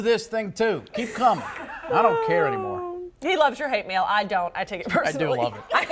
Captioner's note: laughter